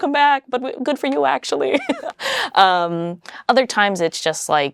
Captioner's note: laughs